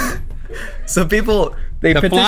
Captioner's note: crew laughing